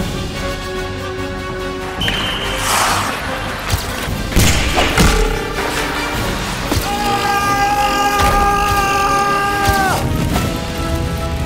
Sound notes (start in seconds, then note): 6.8 grunting